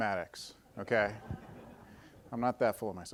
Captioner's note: audience laughing